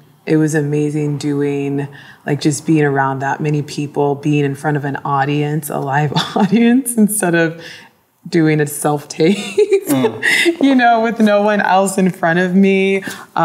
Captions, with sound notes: It was amazing doing, just being around that many people, being in front of an audience, a live audience, instead of doing a self-tape. (laughs) You know, with no one else in front of me,